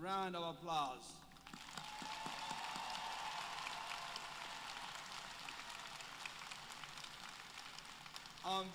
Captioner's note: applause